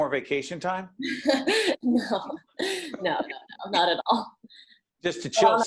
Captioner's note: laughing